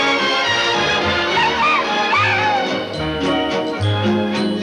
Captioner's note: crowing